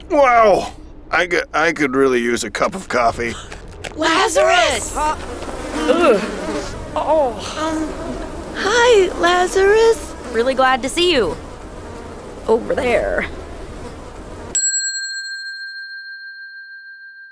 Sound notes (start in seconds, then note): 7.0 flies buzzing; 14.5 bell dings